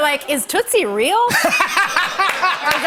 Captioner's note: laughter